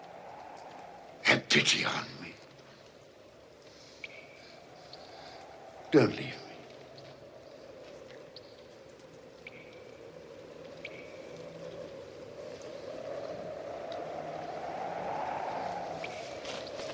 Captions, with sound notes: Have pity on me. Don't leave me. [Wind blows]